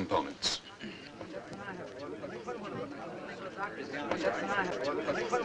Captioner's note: group chattering